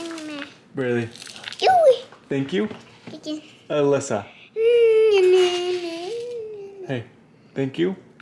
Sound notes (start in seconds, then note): 5.1 humming continues